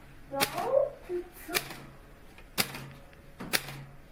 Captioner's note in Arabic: طقطقة الآلة الكاتبة